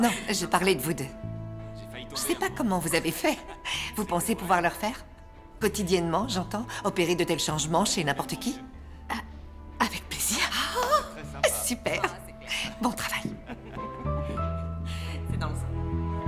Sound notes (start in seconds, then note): 10.4 chuckles; 13.7 laughing